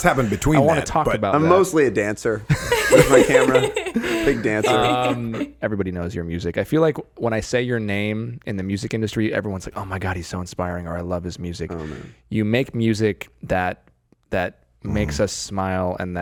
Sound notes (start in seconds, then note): 2.4 all laughing